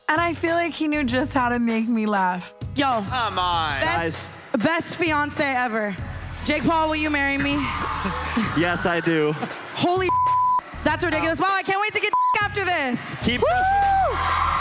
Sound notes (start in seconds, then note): 10.0 beep; 12.7 beep